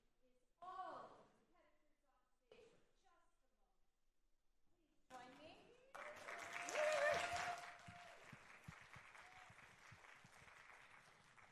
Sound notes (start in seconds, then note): 5.9 audience applauding